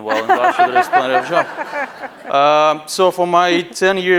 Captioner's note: laughing